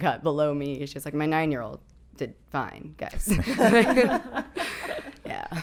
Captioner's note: laughing